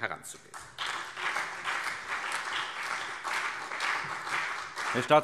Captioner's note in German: Beifall CDU und BÜNDNIS 90/DIE GRÜNEN